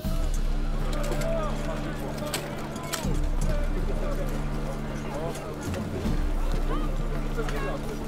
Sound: noisy activity

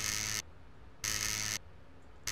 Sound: static

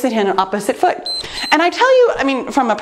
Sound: timer beeps

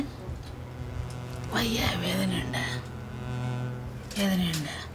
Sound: Amma speaks to her mother in malayalam

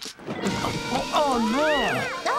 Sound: curtain Rustling

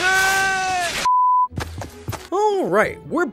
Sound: electricity whirring; beep

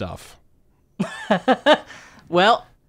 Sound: laughs

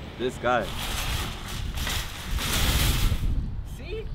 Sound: cart wheels clatter

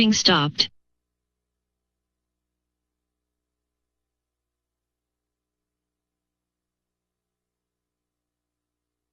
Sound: silence

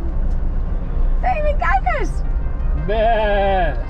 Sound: chatters

